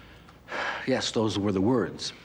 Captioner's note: sighs